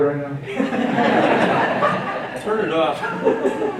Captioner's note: laughing